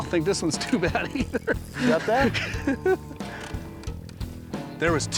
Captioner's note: laughs